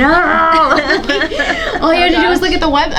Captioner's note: panelists laughing